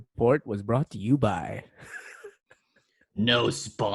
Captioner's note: chuckles even more because why not